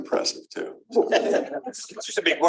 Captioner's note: laughter